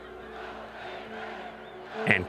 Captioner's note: crowd cheering